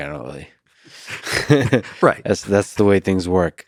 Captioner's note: Lex laughs